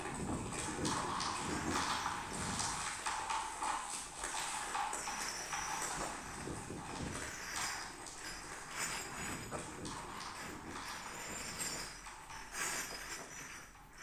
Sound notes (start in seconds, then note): 4.7 glass clinking continues